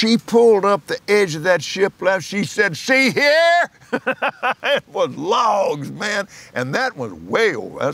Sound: laughs

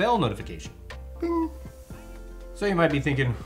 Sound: imitating bell sound

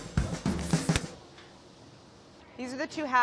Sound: rubber glove snaps

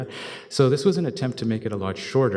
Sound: chuckles

